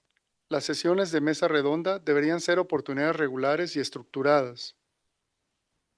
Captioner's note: non-english speech